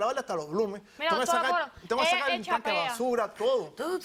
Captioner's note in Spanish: Hablan al unísono